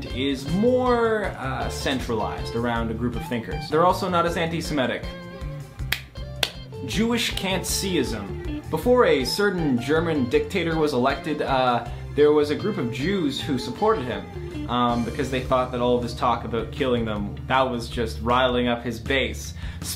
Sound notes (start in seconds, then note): 6.4 clapping